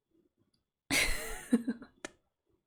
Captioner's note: laughs